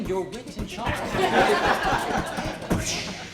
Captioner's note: laughter